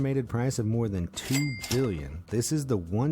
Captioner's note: cash register ringing